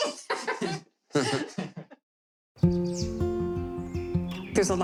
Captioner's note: laughing